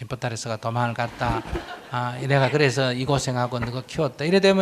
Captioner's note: audience Laughter